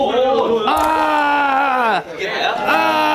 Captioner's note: A cry of pain follows immediately